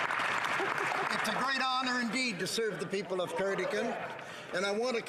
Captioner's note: some Applause